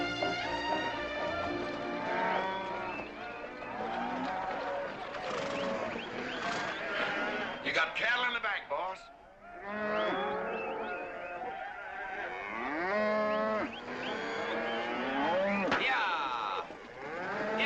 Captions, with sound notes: (PEOPLE CHATTERING) (CATTLE BELLOWING) (MAN WHISTLING) You got cattle in the back, boss. (CATTLE BELLOWING) Yah.